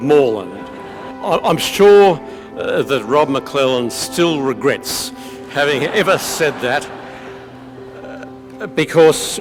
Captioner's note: audience laugh